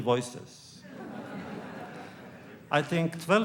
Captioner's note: laughter